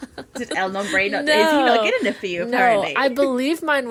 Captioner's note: laughing